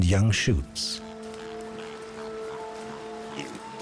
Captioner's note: pig snorting